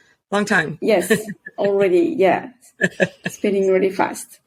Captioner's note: chuckles